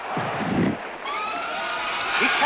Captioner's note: spectators scream